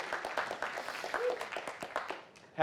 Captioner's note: audience clapping